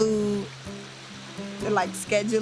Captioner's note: none